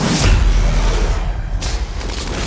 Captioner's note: zombie roaring